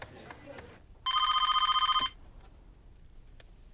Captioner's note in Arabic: هاتف RlNGlNG